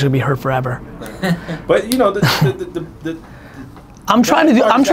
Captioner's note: laughing